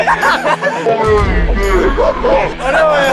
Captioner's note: explodes